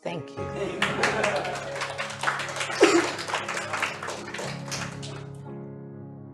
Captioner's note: applause